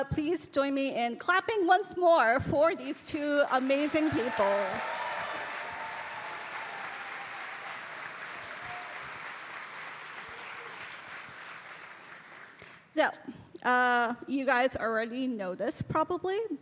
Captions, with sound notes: Please join me in clapping once more for these two amazing people. [audience cheering] So you guys already know this probably,